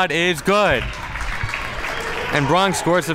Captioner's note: crowd applauds